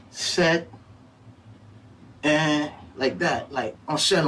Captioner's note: papa counting in Creole